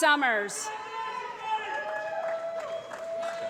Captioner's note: applause